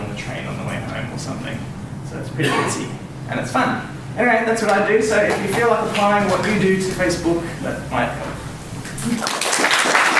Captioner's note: applause